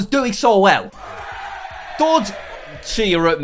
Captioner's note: cheers